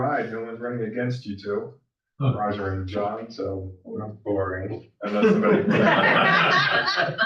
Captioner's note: all laugh